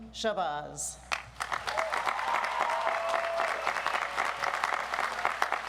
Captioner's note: audience applauds